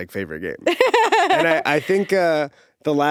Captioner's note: laughing